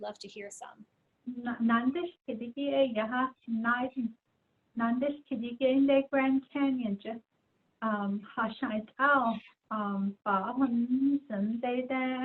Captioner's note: speaking in Diné